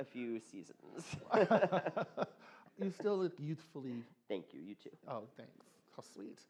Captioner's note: laughter